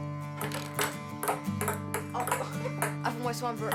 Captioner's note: ping pong balls clack; laughs